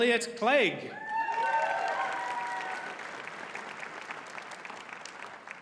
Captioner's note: audience cheers and applauds